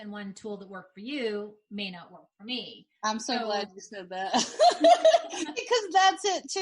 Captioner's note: laughing